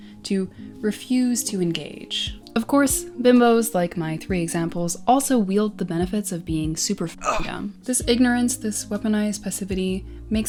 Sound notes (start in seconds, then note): 7.2 grunt